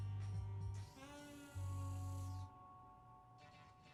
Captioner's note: whirring